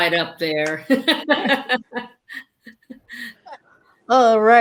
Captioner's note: laughing